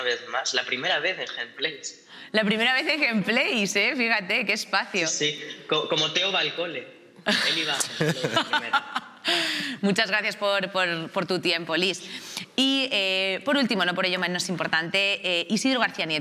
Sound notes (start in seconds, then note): 7.3 laughs